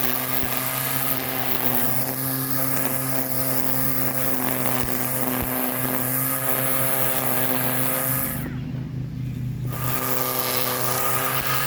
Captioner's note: string Trimmer Noise